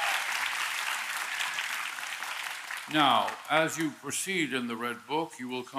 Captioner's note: applause